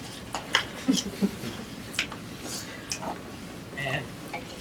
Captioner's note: laughter